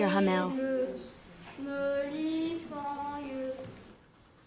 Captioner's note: reciting in French